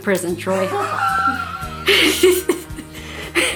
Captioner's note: laughing